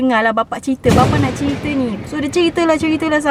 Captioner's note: thunder roaring sound effect